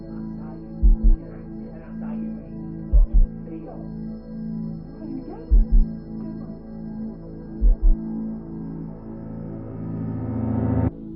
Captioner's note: gemma faintly defends herself; angry shouting continues